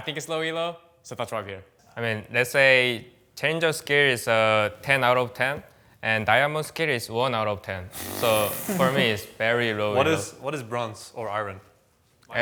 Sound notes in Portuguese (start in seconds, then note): 8.2 risos